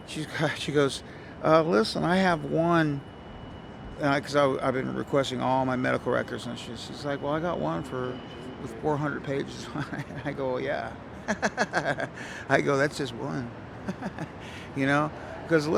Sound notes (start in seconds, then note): 11.2 laughs; 13.8 chuckles